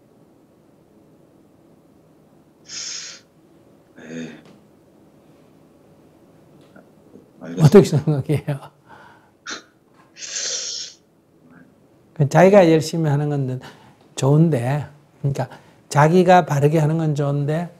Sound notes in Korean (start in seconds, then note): 4.0 한숨; 9.7 웃음; 10.4 한숨